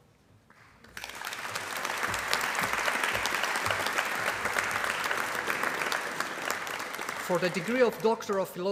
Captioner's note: applause